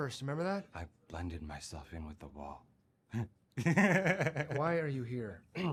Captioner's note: laughing